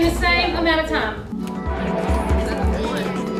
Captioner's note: students chattering